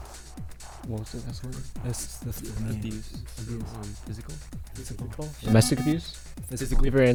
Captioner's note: wispering